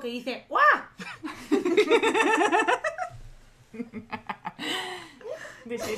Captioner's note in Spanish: risas